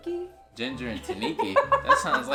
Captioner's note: laughs